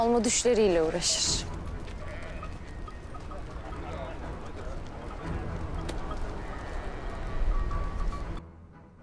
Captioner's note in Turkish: Uğultu Sesleri